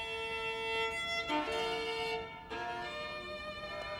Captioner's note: none